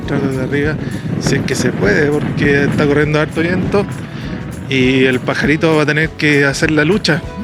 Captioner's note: drone